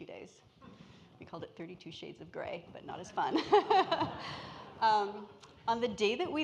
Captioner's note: laughs